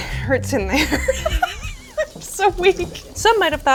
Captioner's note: laughs